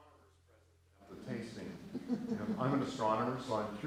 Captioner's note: laughter